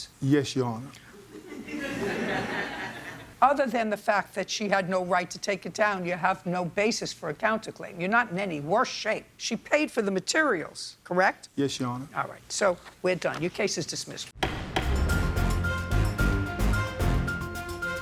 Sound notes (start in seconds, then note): 1.3 crowd laughs; 14.4 gavel thuds; 14.4 upbeat music